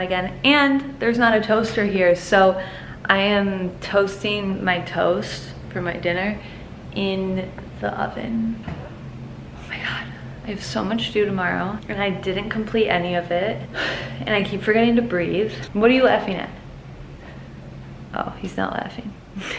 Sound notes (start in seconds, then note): 13.7 sighs